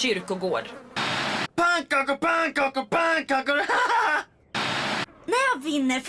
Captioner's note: laughs